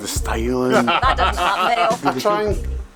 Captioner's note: laughs